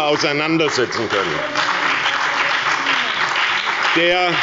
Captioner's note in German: Beifall bei der SPD und der FDP